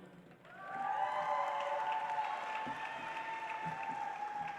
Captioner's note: audience applauds